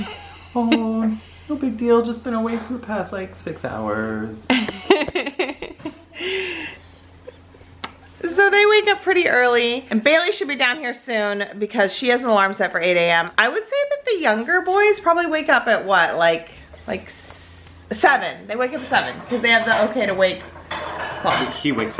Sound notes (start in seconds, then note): 0.0 laughing; 4.5 laughing; 7.8 kissing